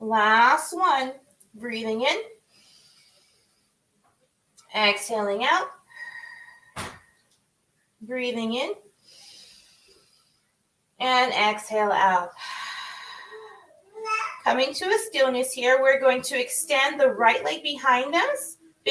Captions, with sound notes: Last one, breathing in. (inhales) Exhaling out. (exhales) Breathing in. (inhales) And exhale out. (exhales) Coming to this down is here. We're going to extend the right leg behind us,